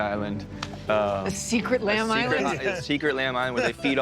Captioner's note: chuckling